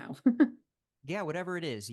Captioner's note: laughing